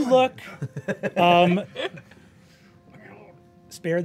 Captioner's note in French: rires